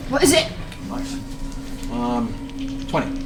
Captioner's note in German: schnappt nach Luft